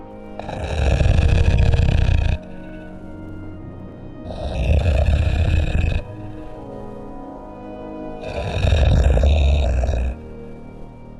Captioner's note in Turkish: horlama sesleri̇